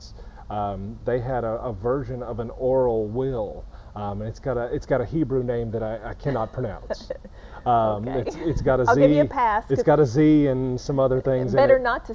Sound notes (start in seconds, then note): 6.2 laughing